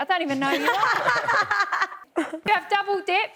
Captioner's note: laughs